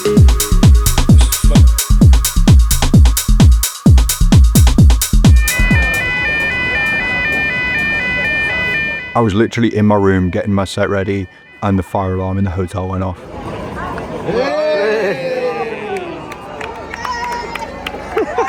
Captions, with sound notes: (fire alarm echoing) I was literally in my room getting my set ready and the fire alarm in the hotel went off. (all applauding)